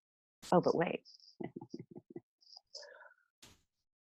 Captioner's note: laughs